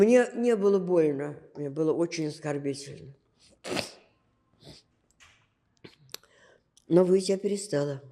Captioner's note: sniffling